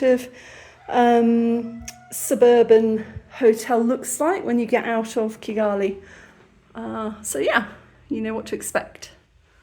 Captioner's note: rooster crowing